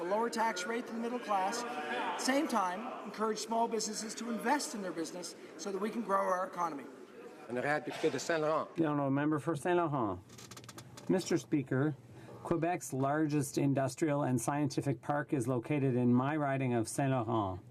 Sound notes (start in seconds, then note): 10.4 speaking French